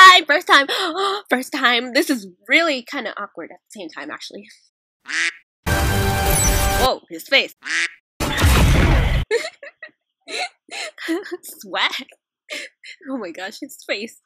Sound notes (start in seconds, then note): 5.0 quack; 7.6 quack; 8.2 thud